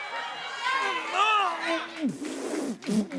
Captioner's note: grunting